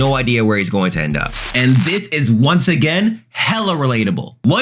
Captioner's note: TV static running